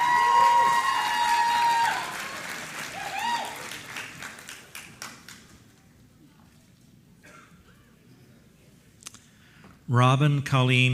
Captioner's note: applause